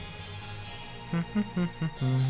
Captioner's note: hums